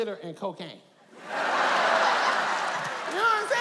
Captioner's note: audience laughs